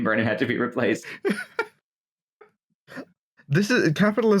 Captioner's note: laughter